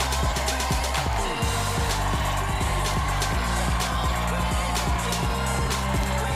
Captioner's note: cheers and applause